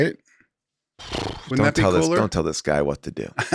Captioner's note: Paul trills lips